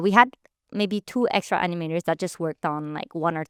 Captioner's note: none